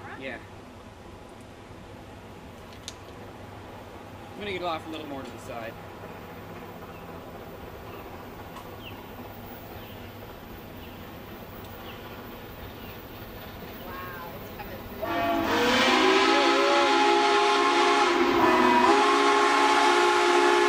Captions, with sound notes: Yeah. I'm gonna get off a little more to the side. Wow, it's coming Fast [Steam whistle blows] [Steam Whistle continues getting louder]